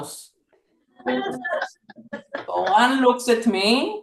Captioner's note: laughter